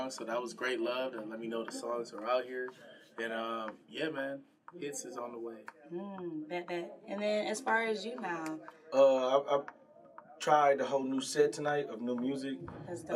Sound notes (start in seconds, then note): none